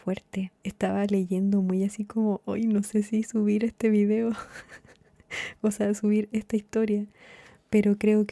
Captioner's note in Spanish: risas